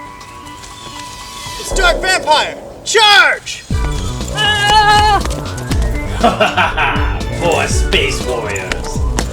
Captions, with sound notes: It's Dark Vampire! Charge! (charge noises) (laughs) More Space Warriors.